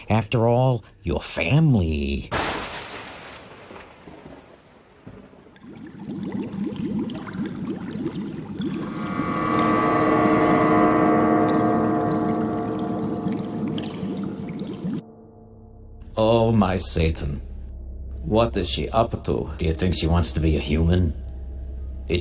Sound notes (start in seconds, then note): 2.3 thunder booming; 5.8 chemicals bubbling; 9.1 ominous music